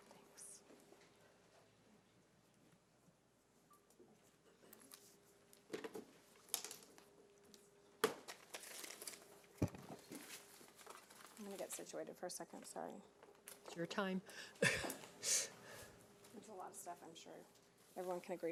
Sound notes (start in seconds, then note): 14.6 chuckles